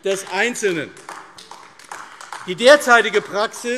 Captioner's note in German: Beifall AfD